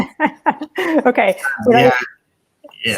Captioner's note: laughing